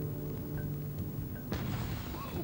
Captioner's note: tyre screech